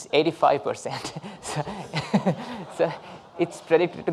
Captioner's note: laughing